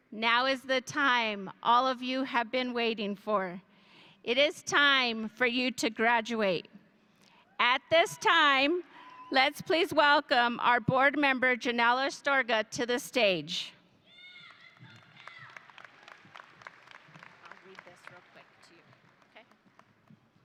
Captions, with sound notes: now is the time all of you have been waiting for. It is time for you to graduate. At this time, let's please welcome our board member, Janelle Astorga to the stage. (audience applauding) I'll read this real quick to you, okay?